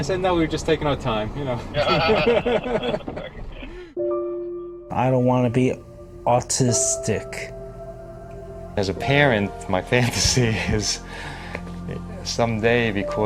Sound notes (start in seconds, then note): 1.5 laughing